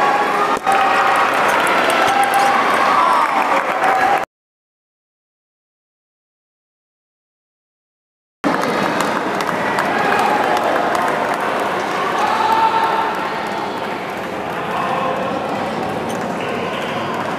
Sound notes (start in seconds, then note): 2.2 applause